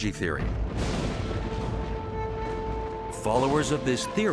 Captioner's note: suspenseful music; thunder rumbling